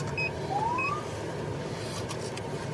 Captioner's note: siren chirps